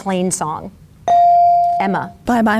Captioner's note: bell dings